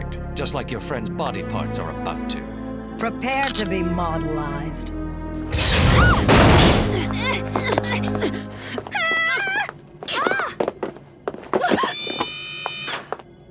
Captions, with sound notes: Now they belong to Picture Perfect, just like your friends body parts are about to. Prepare to be modelized. [scream] [grunting] [scream]